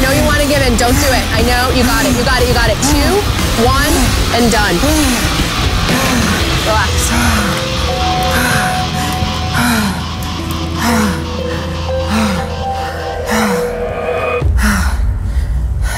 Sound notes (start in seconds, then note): 6.9 heavy breathing; 7.8 dramatic music